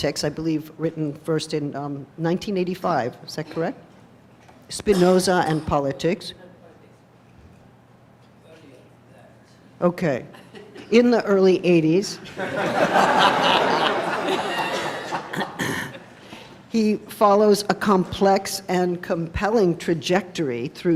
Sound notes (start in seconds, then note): 12.3 laughing